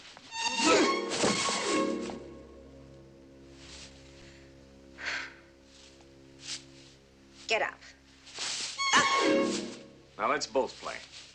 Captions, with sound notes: Egh! [Whimsical music, rustling] [Rustling] [Heavy breathing] [Footsteps] Get up. [Rustling] Ugh! [Whimsical music, rustling] Now, let's both play.